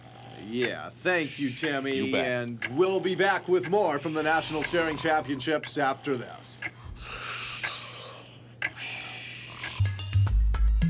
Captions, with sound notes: YEAH. THANK YOU, TIMMY, AND WE'LL BE BACK WITH MORE FROM THE NATIONAL STARING CHAMPIONSHIPS AFTER THIS. [ YAWNS ]